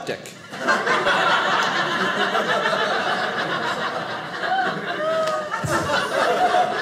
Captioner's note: audience laughing